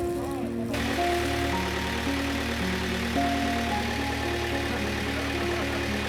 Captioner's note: upbeat music; water rippling; boat engine roaring; upbeat music; boat engine roaring; laughing